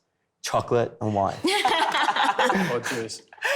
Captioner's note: laughing